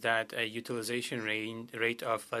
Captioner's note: speaking French